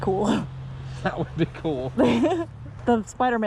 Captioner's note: laughing